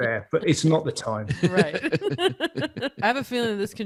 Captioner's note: laughing quickly